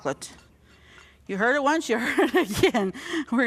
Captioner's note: laughing